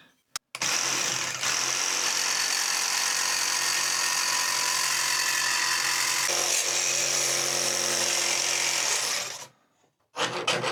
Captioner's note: drilling